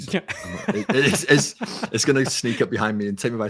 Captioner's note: laughing